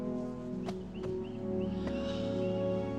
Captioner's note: sighs; soft music